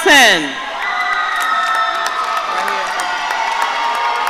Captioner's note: audience cheering